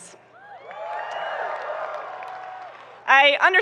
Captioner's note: audience cheering and applauding